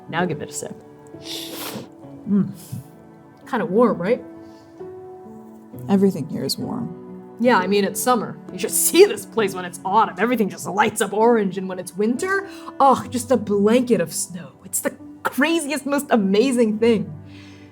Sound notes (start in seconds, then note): 1.1 slurping